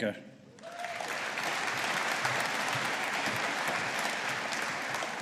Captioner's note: audience applauding